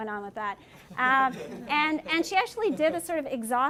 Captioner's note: laughter